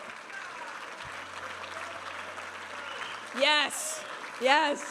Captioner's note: audience applauding and cheering